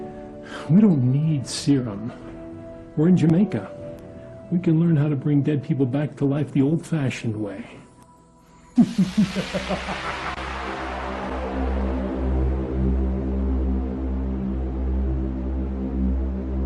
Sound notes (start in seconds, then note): 8.4 laughing; 13.4 dramatic music